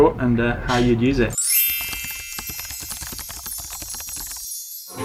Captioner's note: chiming bells